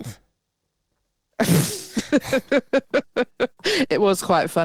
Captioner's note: laughing